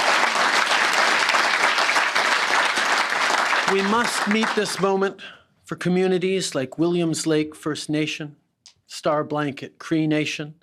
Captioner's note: applause